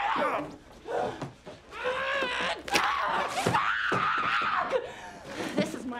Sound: screaming

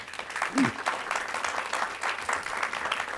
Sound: applauding

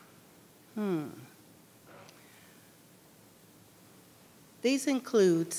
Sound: thoughtful humming

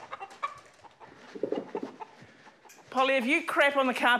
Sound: clucks

